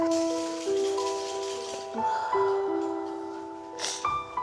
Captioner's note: crying